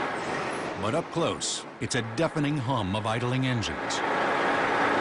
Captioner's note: engines growling, humming